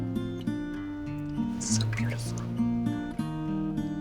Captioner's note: whispers